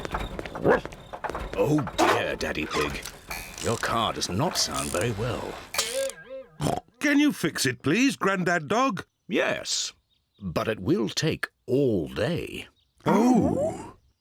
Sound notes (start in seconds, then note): 0.6 barks; 5.3 car clunks; 5.8 oinks